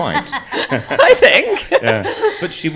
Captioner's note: panel laughs